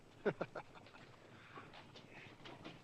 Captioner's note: bunny laughing